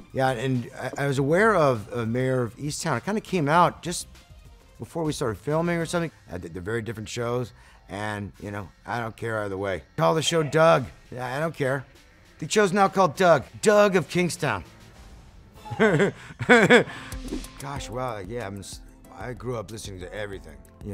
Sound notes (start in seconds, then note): 15.6 laughs